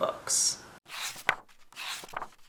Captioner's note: pages turning